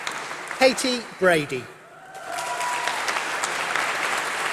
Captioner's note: applause